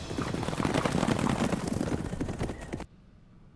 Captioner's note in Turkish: At nalı sesleri